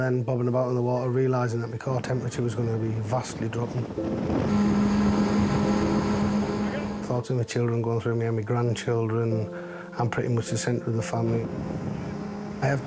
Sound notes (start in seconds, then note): 3.2 engine revving; 4.4 gentle music